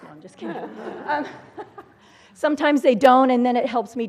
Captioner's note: laugh